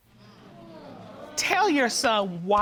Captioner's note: audience groans